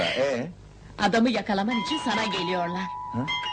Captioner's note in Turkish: kapi zi̇li̇ çalar